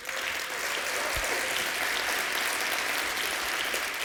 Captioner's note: applause